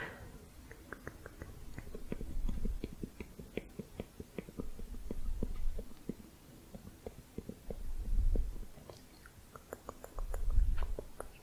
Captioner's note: tongue clicking